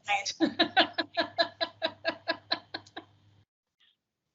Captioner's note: all laughing